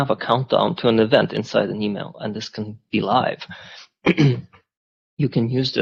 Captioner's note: clears throat